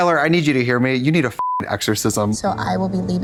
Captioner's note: beep